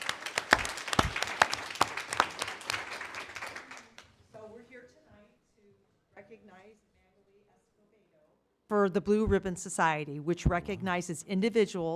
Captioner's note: applause